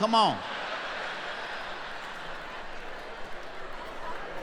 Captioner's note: laughing